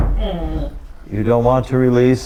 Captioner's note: head thudding